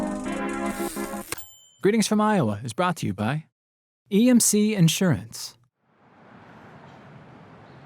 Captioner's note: typewriter dings